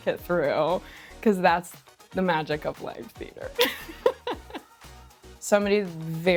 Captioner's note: laughs